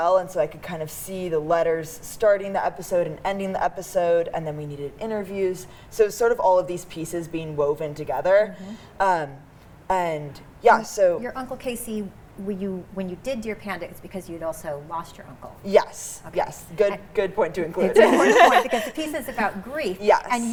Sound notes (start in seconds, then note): 17.9 laughs